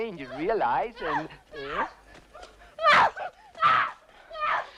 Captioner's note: captive screaming